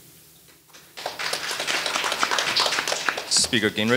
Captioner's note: audience applauding